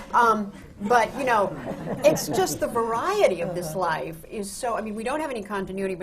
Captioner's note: laughter